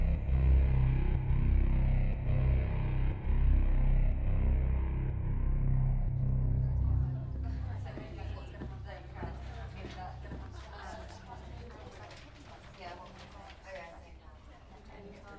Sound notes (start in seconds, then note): 5.7 indistinct chatter